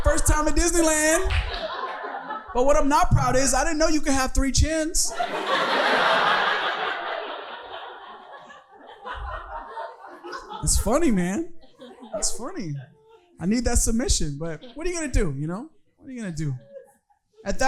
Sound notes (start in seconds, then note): 6.7 audience laughing